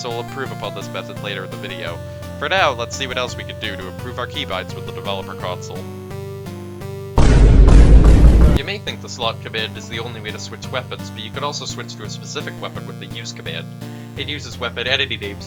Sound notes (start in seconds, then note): 7.2 rapid smol thuddery; 7.2 thud 2 electric boogaloo